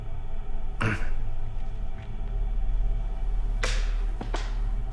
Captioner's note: Danny grunts